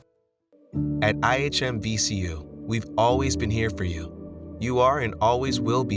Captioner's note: voiceover